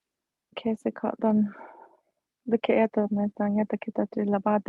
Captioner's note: speaking foreign language